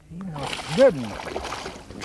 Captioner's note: splash